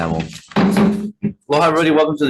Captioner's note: gavel tapping